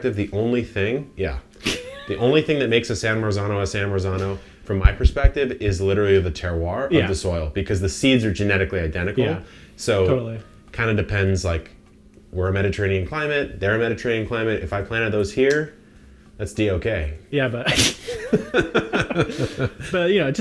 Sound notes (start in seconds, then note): 17.6 both laughing; 17.7 cracks up